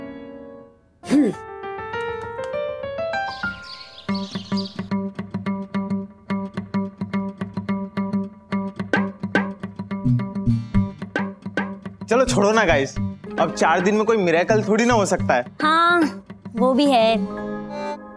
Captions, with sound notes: [grunting] Forget it, guys. You can't expect a miracle in four days. Yes, that's true.